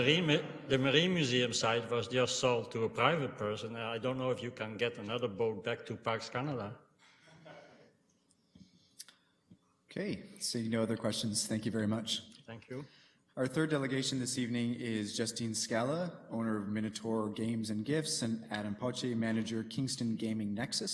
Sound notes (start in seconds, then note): 7.3 laughter